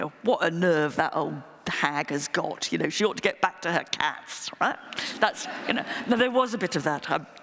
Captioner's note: laughter